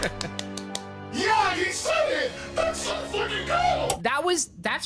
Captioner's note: in demonic voice